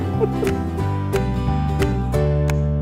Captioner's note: chuckles; uplifting music